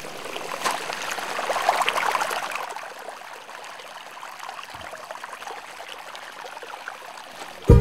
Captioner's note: running water